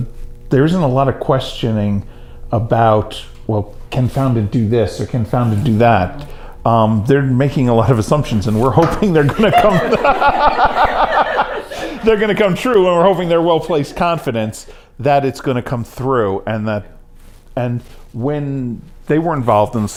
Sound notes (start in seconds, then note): 9.2 laughter